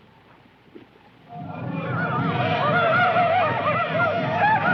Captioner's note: indians hollering